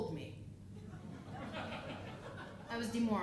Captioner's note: audience laughing